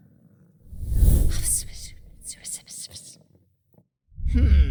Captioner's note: whispering